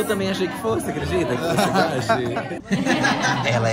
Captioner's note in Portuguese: risos